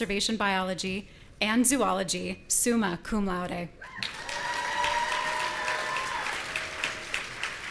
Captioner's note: audience cheering